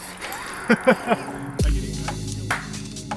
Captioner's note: man laughing; mellow electronica music continues